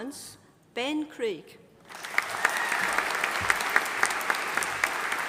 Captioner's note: audience applauding